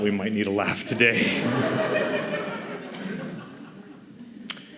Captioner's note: laughter